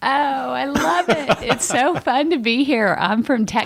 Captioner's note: laughter